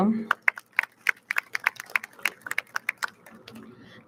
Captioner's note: audience claps